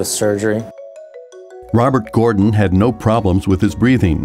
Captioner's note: voiceover